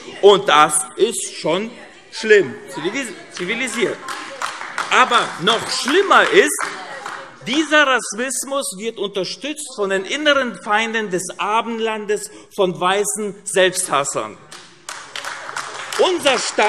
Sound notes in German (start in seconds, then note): 2.8 Vereinzelter Beifall AfD; 14.5 Vereinzelter Beifall AfD